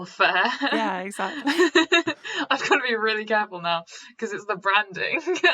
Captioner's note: laughter